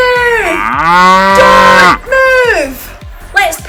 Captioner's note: cow mooing